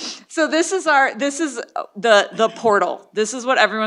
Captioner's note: laughter